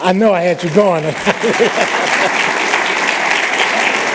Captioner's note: laughter